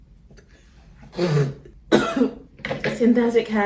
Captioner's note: spitting noises; coughs